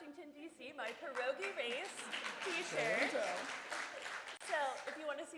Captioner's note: applause